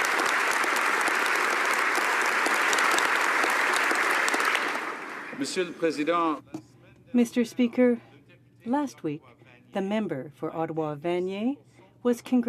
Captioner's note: applause